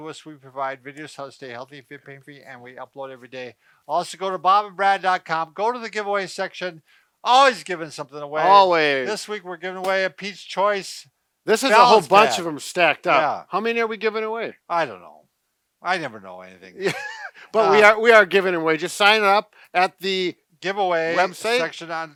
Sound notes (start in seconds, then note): 16.8 chuckles